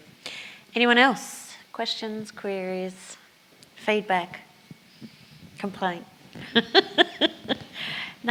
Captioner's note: laughs